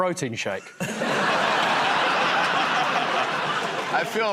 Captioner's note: laughter